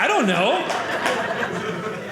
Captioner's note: audience laughing